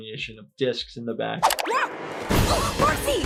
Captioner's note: Marcy yells, grunts